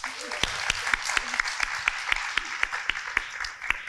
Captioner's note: group applauds